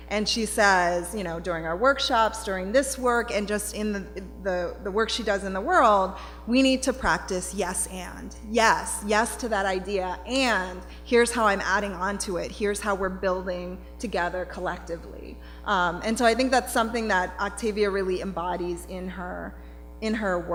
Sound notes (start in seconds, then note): none